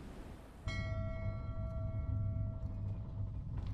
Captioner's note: bell dings